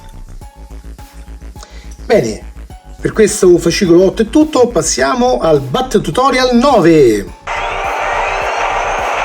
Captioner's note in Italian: Applauso